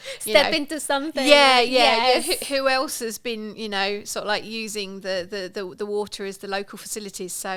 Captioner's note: laughing